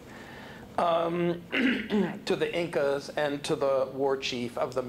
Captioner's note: clears throat